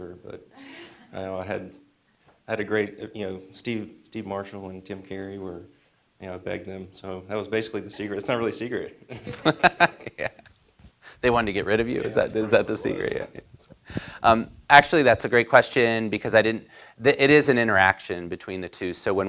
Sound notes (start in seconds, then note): 9.1 laughter